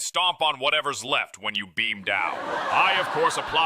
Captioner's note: audience chuckles